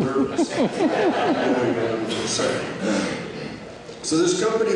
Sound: laughter

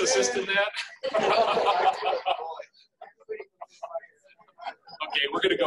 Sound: laughing

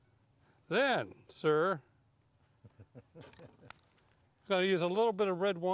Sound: laughing

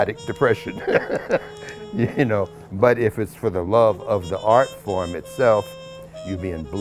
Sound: laughs

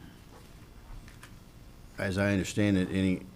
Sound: none

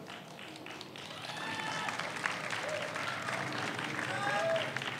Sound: audience applauds

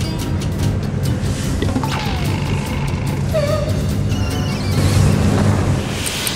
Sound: whisper

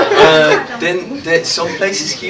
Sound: laughter

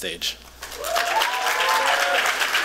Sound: applause

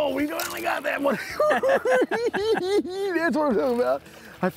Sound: cackling

